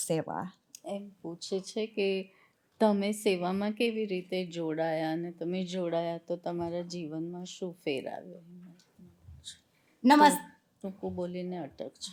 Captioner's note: speaking gujarati